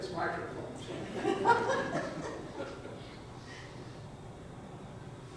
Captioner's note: audience chuckles